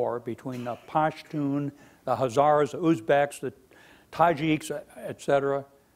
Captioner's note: speaking foreign language